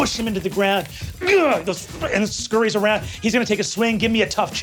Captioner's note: grunts